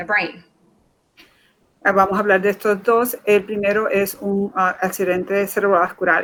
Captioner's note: speaking in Foreign Language